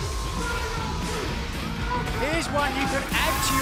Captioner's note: crowd chatter